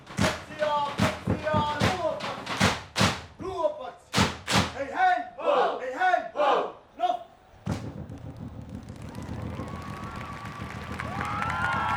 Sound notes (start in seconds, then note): 7.6 rapid drumming; 8.8 excited cheering